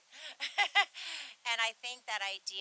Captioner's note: laughs